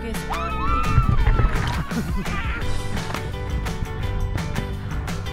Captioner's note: both screaming and laughing